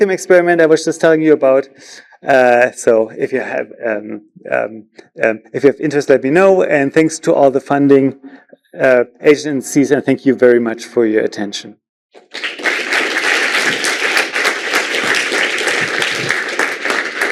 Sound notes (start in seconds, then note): 12.1 applause